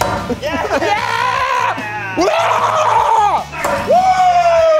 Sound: cheer

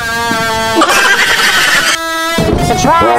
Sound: laugh

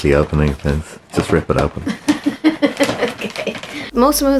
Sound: laughing

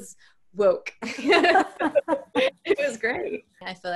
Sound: laughing

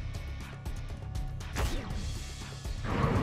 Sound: Orb Laser shoots

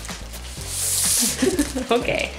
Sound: laughter

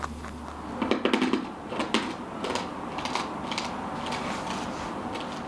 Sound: sound of chewing candy

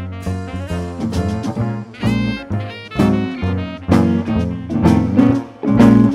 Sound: none

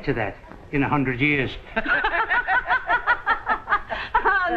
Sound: chuckles

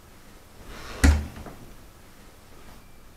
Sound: door shuts

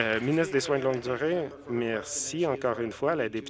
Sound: some Applause

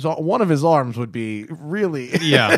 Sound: laughter

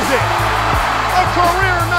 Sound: cheering

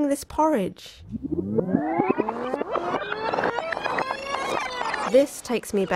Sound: rewinding sound

